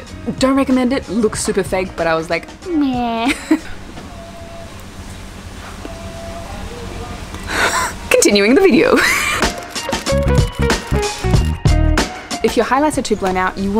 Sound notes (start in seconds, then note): 8.7 laughs